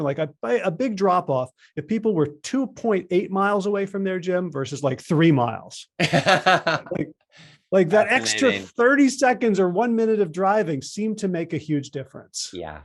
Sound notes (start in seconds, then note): 6.0 laughing